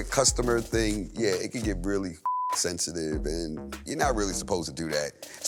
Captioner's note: beep